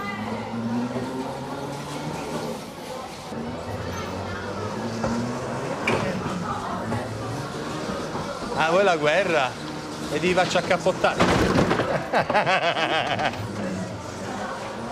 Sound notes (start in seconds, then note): 11.7 laughs